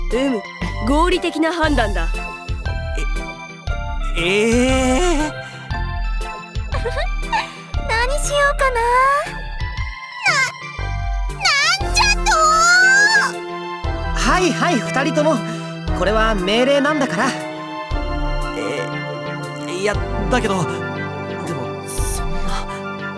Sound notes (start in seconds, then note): 6.7 giggle